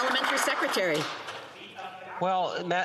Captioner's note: some Applause